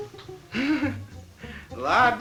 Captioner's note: laughing